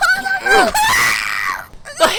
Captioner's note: grunts